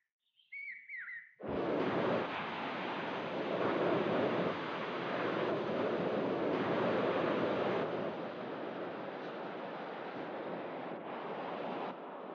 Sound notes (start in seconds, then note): 1.5 water Waves Sound